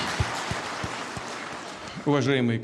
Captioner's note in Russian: Аплодисменты